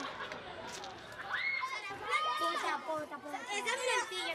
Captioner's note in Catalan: cridòria